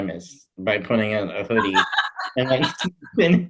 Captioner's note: laughs